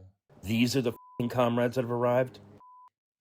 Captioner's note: through translator